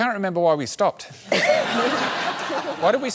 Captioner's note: laughter